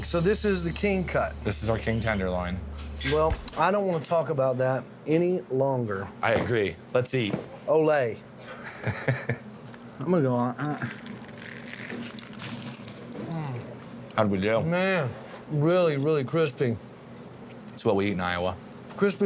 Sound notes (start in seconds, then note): 8.6 laughs; 10.7 crunchy sound